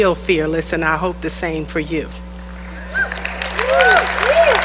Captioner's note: cheering and applause